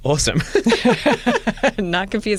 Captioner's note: laughter